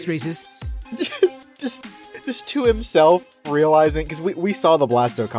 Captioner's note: laughs; chuckles